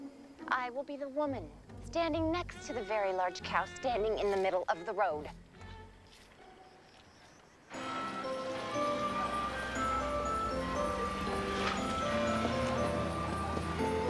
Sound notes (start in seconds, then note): none